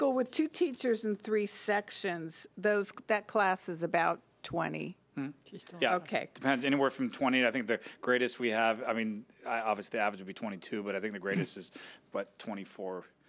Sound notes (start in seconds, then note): 5.5 humming affirmatively